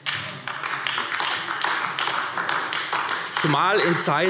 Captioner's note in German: Beifall AfD